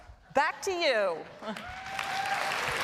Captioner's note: applause